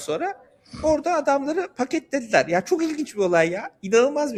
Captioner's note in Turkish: homurdanır